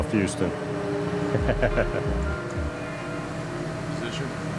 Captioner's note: laughs